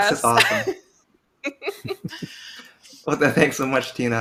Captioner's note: chuckling